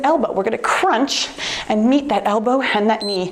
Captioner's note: timer beeps